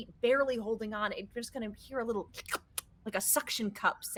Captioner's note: slurps